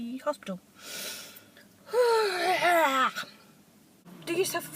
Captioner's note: sighs, screams